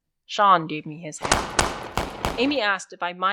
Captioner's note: battle sound grows